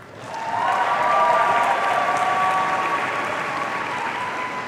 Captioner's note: audience cheering